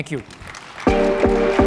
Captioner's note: applause